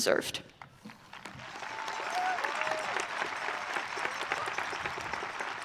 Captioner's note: audience cheering